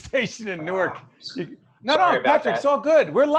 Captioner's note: scoffs